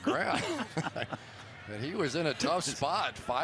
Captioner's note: laughs